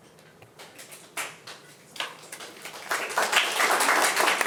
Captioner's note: attendees applauding